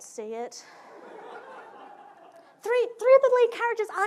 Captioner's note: audience laughing